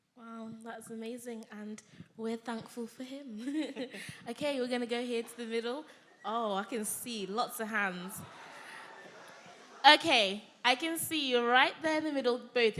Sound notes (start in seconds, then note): 3.4 chuckling; 8.4 audience members calling out